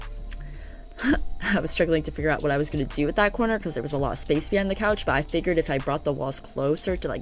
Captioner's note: laughs